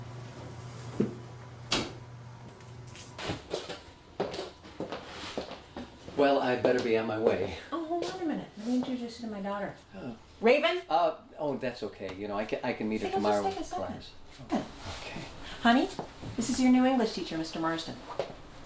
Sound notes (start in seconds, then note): none